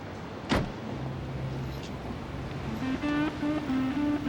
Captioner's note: car door slams